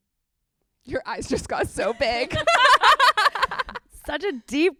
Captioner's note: laughs